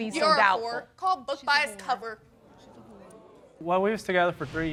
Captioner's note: audience gasping